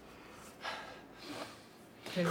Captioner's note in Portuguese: respiração ofegante